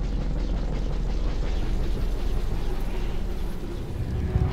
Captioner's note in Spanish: Zumbido del helicóptero